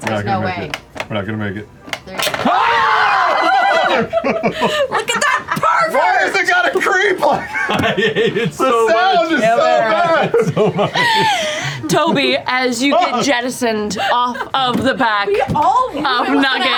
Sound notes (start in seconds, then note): 2.4 screaming; 3.2 laughter